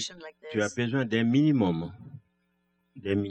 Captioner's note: speaking french